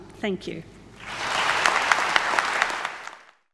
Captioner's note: audience applauds